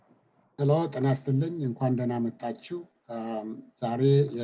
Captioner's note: speaking Amharic